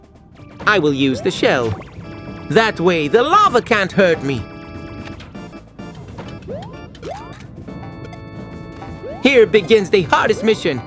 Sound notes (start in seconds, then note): none